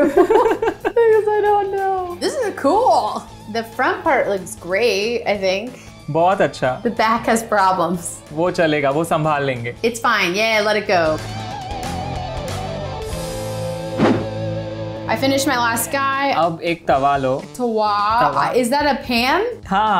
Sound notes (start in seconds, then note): 0.0 both laughing; 6.0 speaking in Hindi; 8.4 speaking in Hindi; 16.2 speaking in Hindi; 19.7 speaking in Hindi